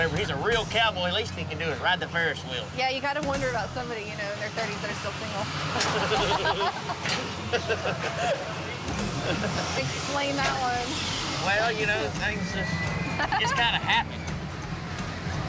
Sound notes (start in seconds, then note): 5.8 laughter